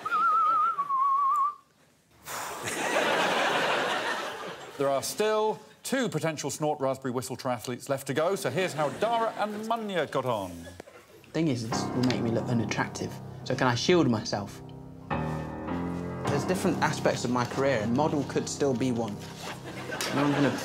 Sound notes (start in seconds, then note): 0.0 whistles; 2.7 sighs